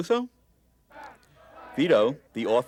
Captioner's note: sounds of chanting protesters